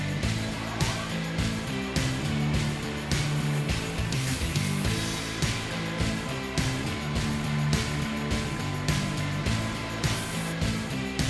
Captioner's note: machinery noises